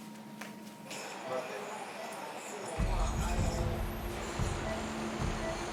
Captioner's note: indistinct chatter